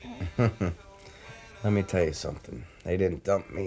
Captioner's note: chuckles